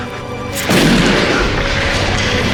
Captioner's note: gun shot!